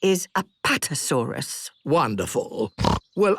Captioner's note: snorts